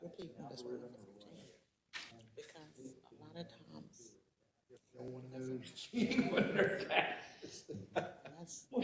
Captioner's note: laugh